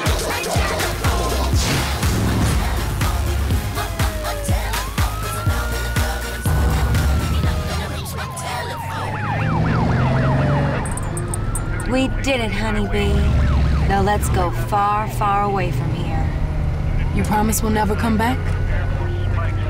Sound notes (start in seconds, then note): 3.1 siren wailing; 9.5 music stops, siren wailing